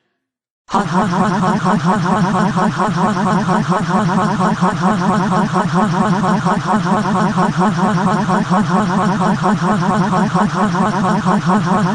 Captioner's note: laughs Harder